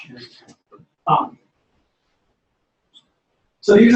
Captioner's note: pause